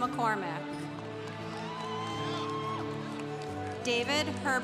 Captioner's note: congregation cheering